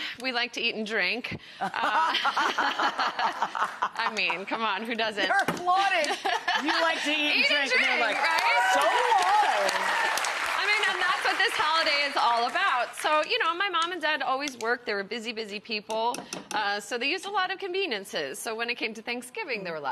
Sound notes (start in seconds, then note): 1.6 both laugh; 7.3 audience applauds and cheers